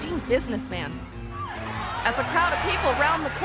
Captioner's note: suspenseful music; people screaming